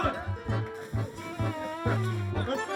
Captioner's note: splash